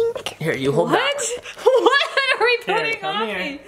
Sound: laughs

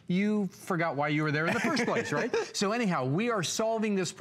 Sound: laughter

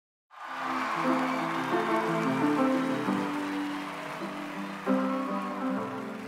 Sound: audience applauds

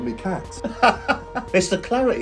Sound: father laughing

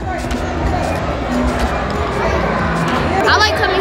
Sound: cheering

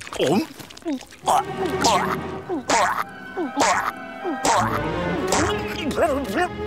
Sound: choking

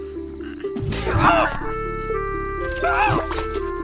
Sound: hoot

